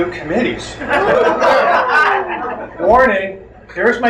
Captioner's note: crowd laughs